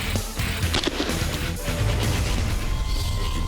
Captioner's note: gunshot